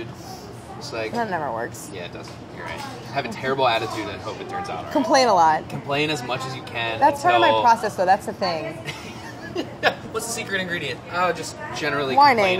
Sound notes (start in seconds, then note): 8.8 laughing